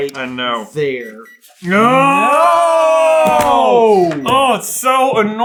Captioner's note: gentle beeping